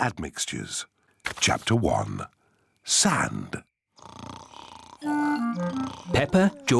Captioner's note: snoring